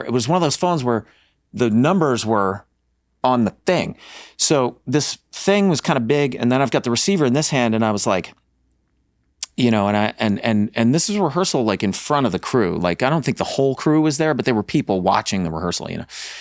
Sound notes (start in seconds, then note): none